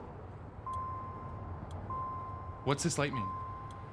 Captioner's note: car beeping